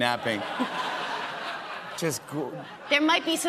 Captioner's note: laughter